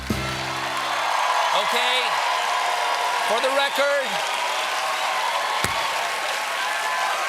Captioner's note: cheers and applause